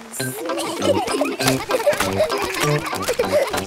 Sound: kids giggling

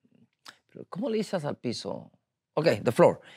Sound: speaking in Spanish

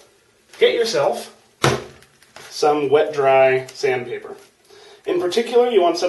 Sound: thump

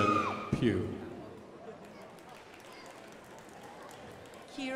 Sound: crowd applauding

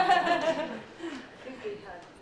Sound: laughter

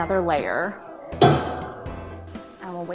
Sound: clanks

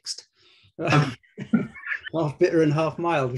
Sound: laughter

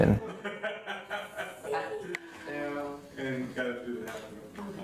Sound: laughter in the background

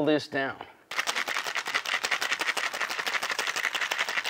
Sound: ice rattling

